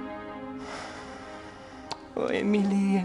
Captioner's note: <i> sighs</i>